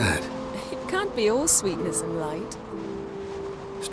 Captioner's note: chuckling